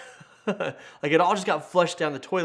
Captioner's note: laughs